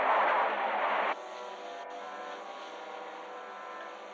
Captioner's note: electricity crackling